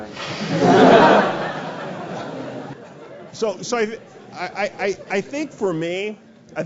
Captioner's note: laugh